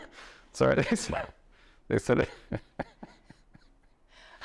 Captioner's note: laughter